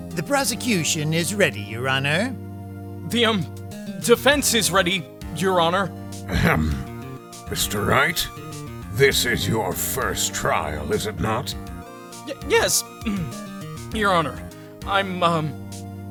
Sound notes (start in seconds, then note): 6.3 ahem; 13.0 ugh